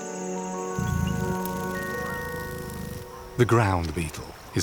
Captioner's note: gentle music; insects buzz